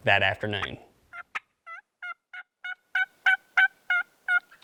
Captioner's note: turkey call